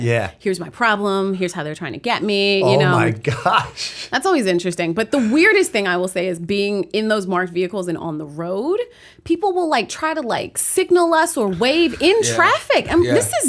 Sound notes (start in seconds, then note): 3.5 chuckle